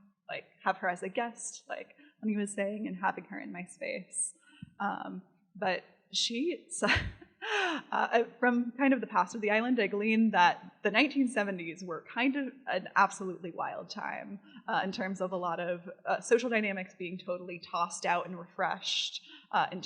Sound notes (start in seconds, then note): 7.2 laughs